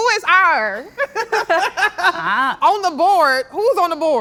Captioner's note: laughing